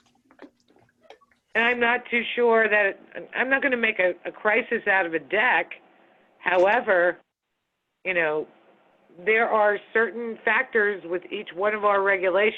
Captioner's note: phone